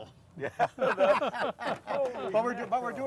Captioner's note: all laughing